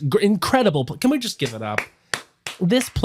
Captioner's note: clapping